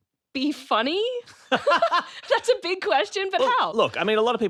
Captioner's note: both laugh